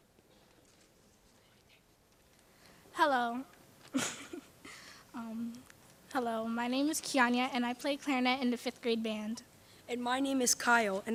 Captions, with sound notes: - Hello. (laughs) Hello, my name is Kiyania, and I play clarinet in the fifth grade band. - And my name is Kyle,